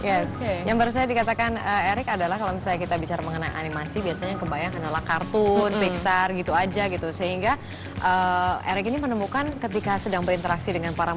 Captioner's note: non-english speech